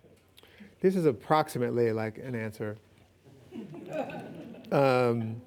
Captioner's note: audience laughing